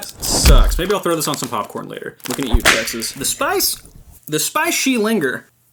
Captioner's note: whip crack